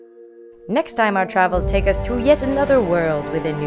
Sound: voiceover

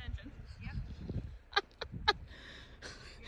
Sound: laugh

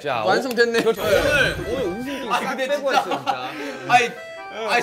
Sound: laughs at the squirrel plate

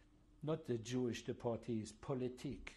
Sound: speaking french; speaking french

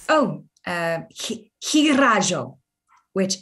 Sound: speaking Sangheili

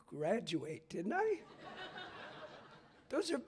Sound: laughter

